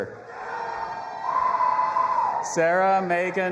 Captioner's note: audience applauding and cheering